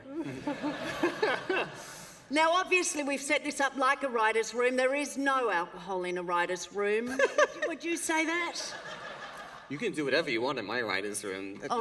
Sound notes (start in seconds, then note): 7.0 laughter